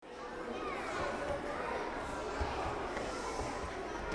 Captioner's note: children chattering